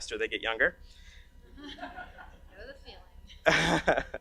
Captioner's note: audience laughs; laughs